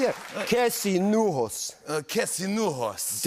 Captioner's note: Speaking High Valyrian